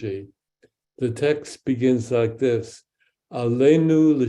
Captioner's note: speaks in Hebrew